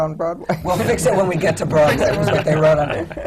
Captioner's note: laughter